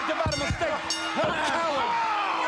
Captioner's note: bell ringing